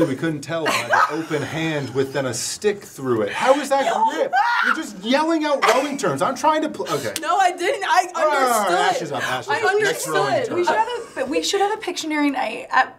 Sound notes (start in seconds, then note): 3.4 guffawing; 10.7 laughing